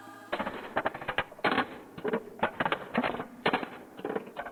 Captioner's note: rattling sound